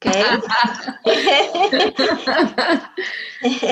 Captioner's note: laughter